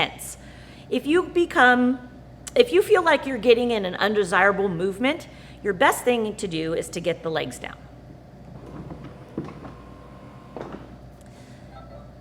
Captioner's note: sound of legs deploying